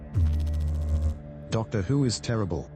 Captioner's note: electrical noise